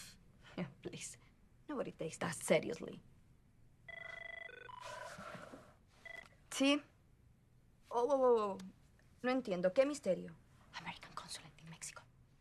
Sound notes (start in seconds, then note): 3.8 phone rings